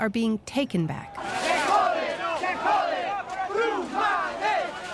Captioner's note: chanting in Spanish